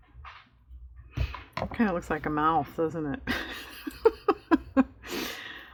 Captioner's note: laughs